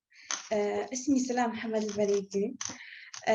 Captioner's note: non-english speech